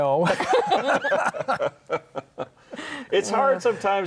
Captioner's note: all laughing